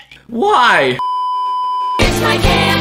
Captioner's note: beeeeeeeeeeeep